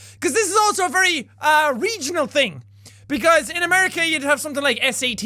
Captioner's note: none